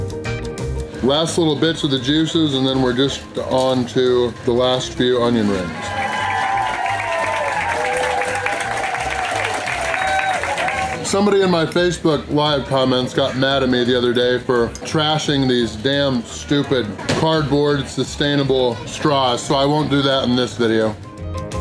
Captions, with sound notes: Last little bits of the juices, and then we're just on to the last few onion rings. (Crowd clapping and cheering) Somebody in my Facebook live comments got mad at me the other day for trashing these damn, stupid, cardboard, sustainable straws, so I won't do that in this video!!